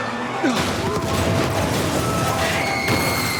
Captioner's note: vehicle bangs; character screams